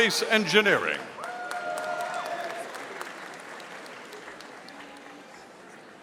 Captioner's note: audience applauding